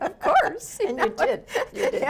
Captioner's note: laughs